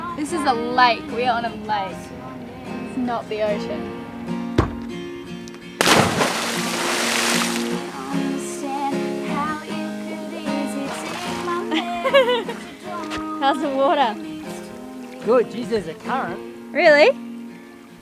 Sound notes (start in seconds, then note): 5.2 splash; 12.1 laughing